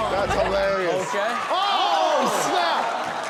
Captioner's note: audience clapping